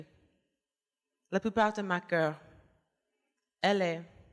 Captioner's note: speaking french